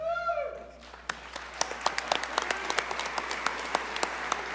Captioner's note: audience cheer and applaud